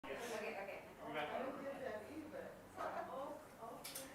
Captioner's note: participants chattering